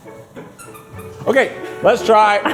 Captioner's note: pickle squeaking